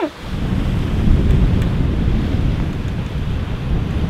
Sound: laughs; strong wind blows

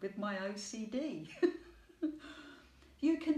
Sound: laughing

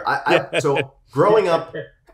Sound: laughs

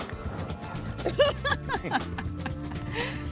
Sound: laughs

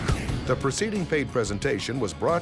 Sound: voiceover

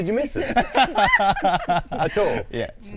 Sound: all laughing

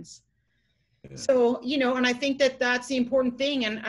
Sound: chuckles

